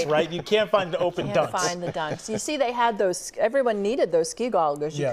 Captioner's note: laughter